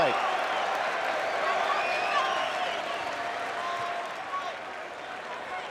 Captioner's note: crowd claps and whistles